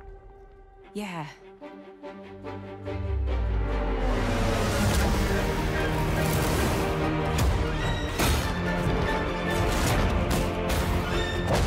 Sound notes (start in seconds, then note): 4.2 fast-paced dramatic music playing; 7.8 loud crashes